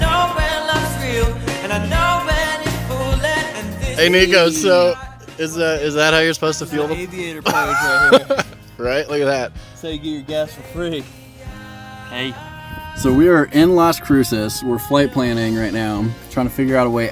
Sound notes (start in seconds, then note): 6.6 laughing